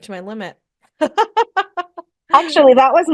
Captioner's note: laughs